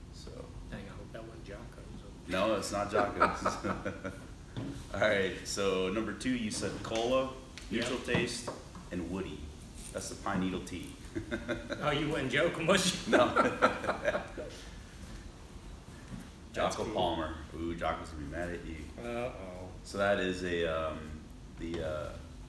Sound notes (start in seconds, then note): 2.8 both laughing; 12.7 laughing